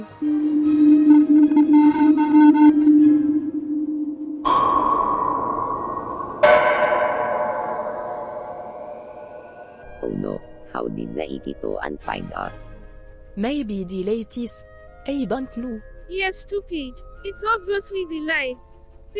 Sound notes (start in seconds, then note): 0.2 ship going to lightspeed; 3.6 ship popping out of hyperspace; 6.4 second ship popping out of hyperspace